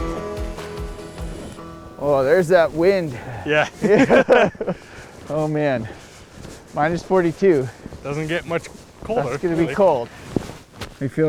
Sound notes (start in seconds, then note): 4.4 group laughs